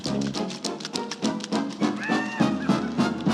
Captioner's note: cackling laugh